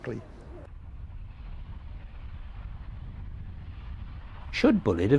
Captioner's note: train passes